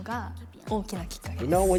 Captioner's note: speaking in foreign language